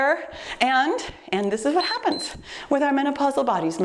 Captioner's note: timer beeps